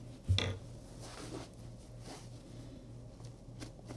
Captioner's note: cloth wiping